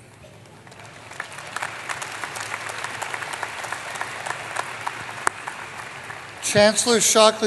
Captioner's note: applause